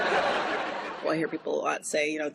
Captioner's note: laughter